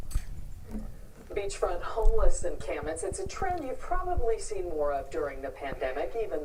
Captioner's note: audio from TV